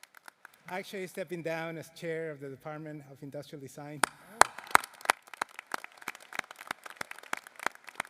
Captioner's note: applause